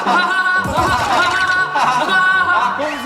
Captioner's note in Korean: 하하하하